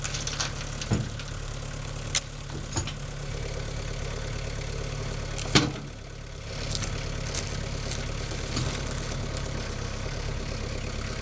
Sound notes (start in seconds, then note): 5.1 skidsteer arm banging; 7.1 engine rumbling